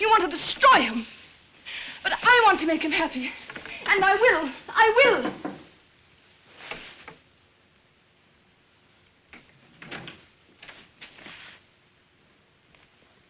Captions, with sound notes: You want to destroy him! But I want to make him happy. And I will. I will! [knocks on door]